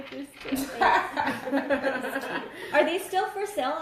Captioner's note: laughter